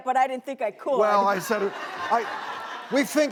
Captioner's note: crowd laughs